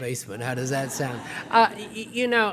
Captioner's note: laughter